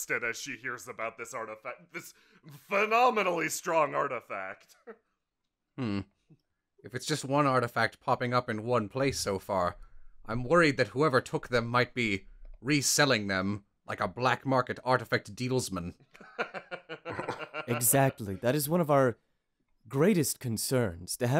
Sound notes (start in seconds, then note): 16.2 laughter